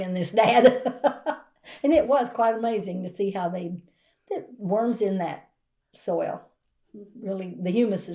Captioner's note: laughs